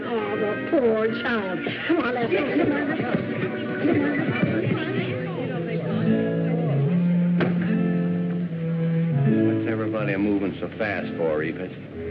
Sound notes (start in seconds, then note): 0.9 chatter